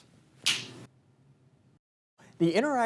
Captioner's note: snap fingers